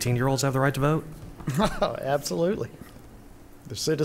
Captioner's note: chuckles